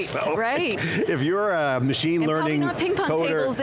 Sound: laughs

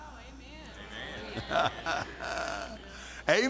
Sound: audience Agrees

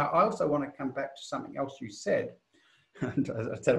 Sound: laughs

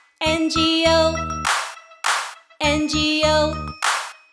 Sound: loud claps; loud claps

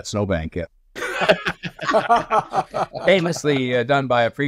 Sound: laughing

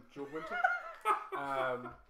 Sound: laughter

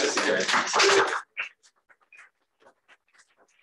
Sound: applause

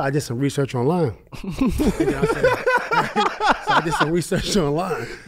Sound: group laughs

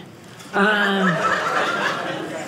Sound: audience laughing

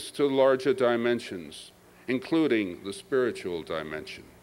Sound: none

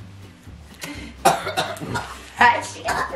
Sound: coughs

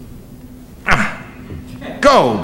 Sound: grunts

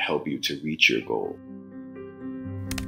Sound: typing sound effects

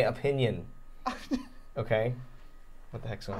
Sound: chuckling

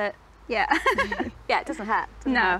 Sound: both laugh

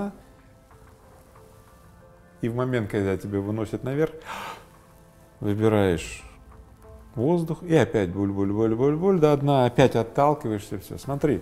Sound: deep breath

